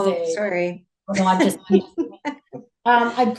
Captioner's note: chuckles